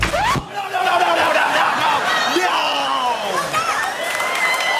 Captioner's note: record scratching; crowd cheering